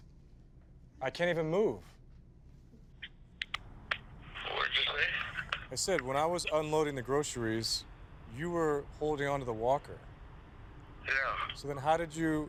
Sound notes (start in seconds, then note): 4.4 on phone